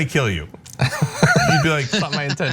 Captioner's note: laugh